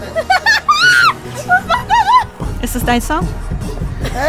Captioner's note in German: kreischend